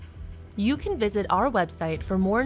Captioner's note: voiceover